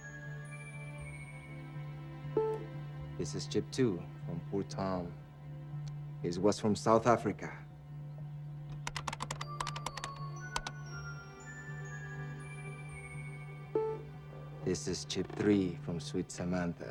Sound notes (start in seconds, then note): 0.0 chiming; 4.9 keys clacking; 9.4 chiming